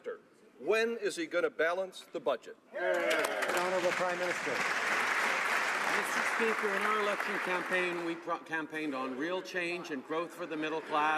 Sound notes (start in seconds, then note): 5.6 some Applause